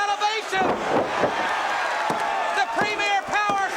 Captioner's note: crowd cheering